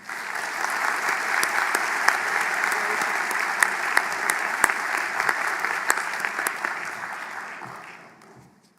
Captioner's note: applause